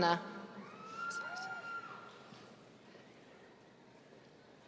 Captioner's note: audience cheering